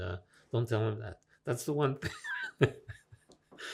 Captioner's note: laughing